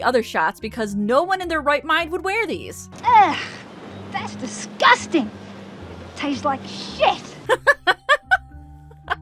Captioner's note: laughing